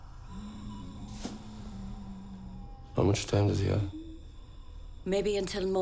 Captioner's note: wheezing